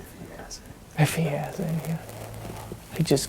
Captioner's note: whispering